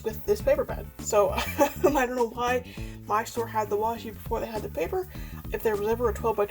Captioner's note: laughs